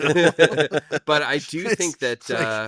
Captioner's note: both laughing